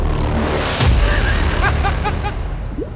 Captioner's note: laughter